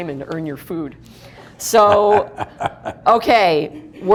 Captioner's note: laughing